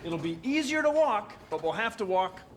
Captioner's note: none